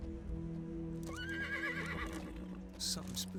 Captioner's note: horse neighing